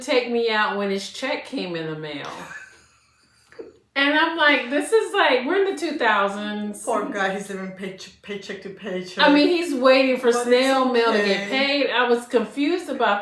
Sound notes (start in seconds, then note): 2.2 laughter